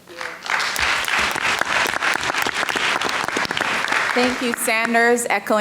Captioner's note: audience clapping